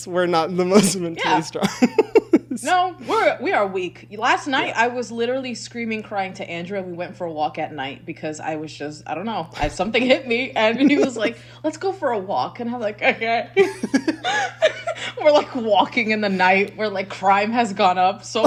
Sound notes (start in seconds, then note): 13.6 both laughing